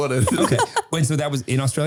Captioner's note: laughing